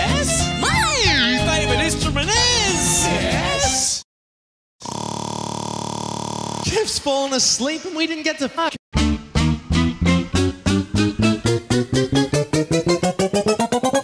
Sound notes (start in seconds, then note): 0.3 vibratoing; 4.8 snoring buzzes